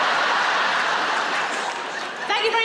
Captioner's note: laughing